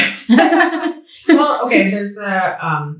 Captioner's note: both laughing